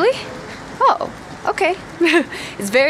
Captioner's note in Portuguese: risos